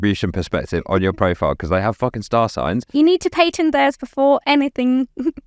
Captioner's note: laughs